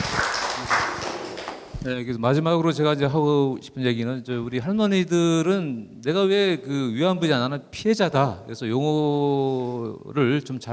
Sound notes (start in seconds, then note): 2.4 speaking in foreign language